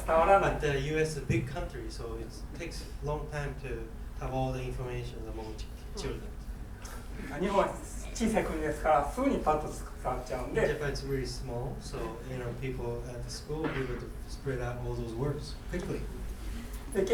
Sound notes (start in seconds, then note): 7.2 speaking in foreign language